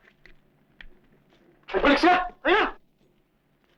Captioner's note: non-english speech